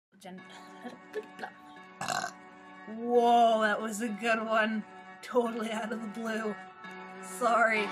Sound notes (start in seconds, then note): 2.0 burp